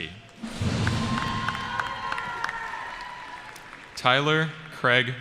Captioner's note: cheering